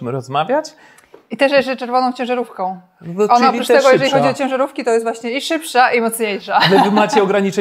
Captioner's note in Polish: śmiech